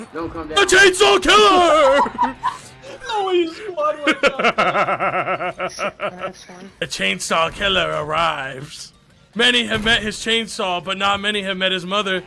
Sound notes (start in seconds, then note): 1.5 laughs